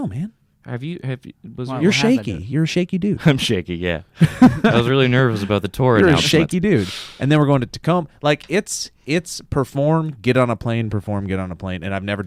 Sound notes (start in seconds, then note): 4.2 chuckles; 4.2 laughs